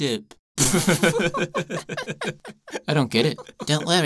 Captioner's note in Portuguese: Ambos riem